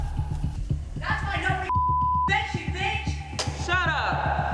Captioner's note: beep